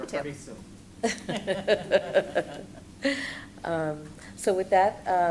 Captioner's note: laughter